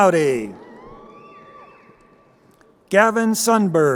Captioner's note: crowd cheering